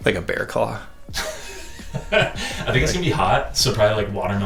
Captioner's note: laughing